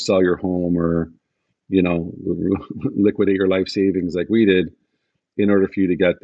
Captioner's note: chuckles